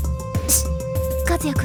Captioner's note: shush